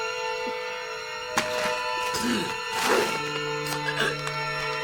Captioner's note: plastic bag rustles